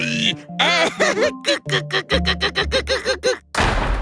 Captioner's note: suspicious laughter